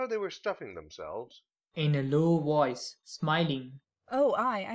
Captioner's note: in a low voice, smiling